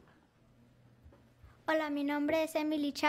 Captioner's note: speaking in foreign language